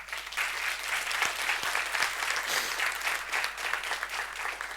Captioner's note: audience applause